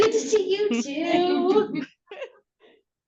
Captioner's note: laughs